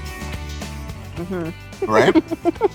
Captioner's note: babbles; giggling